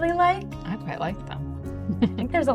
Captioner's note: chuckles